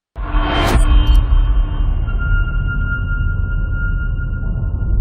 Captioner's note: dramatic sound